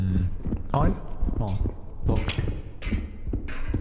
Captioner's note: footsteps